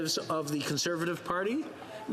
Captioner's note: speaking French